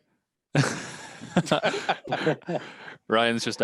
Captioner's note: laughter